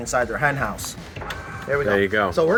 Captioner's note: door whirring